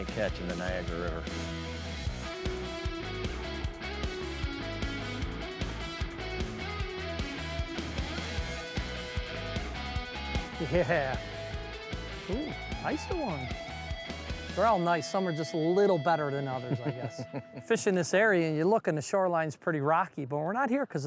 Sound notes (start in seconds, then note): 2.2 upbeat instrumental music; 10.6 giggles; 16.5 laughs